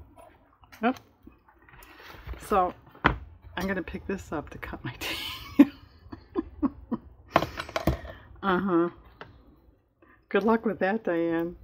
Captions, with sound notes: oh, I'm going to pick this up to cut my tape (laughs) uh huh good luck with that, Diane